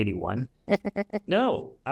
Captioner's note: chuckles